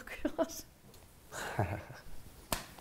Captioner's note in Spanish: risas